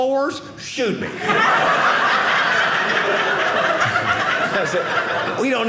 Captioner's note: audience laughing